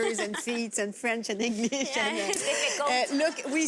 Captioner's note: laughter